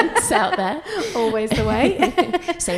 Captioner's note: laughs